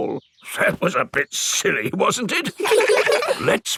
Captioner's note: in teddy's voice; in normal voice; kids laugh